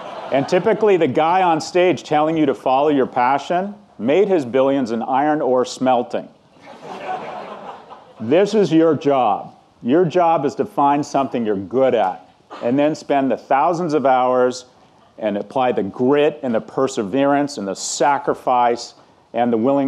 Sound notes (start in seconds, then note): 6.6 audience laughing